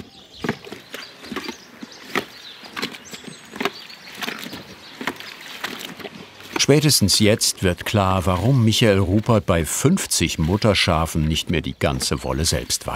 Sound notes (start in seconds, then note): 2.8 birds chirping